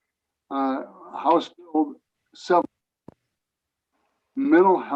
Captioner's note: recording cuts out